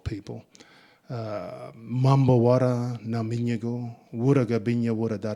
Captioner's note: speaking in Ngunnawal